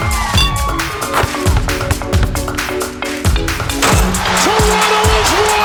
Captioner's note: crowd cheering; glasses clinking; ball swooshing